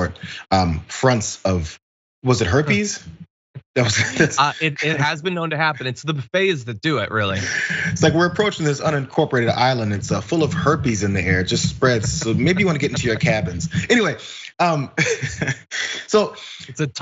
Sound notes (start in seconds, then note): 12.5 laugh; 16.2 laugh